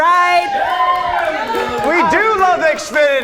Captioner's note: audience cheers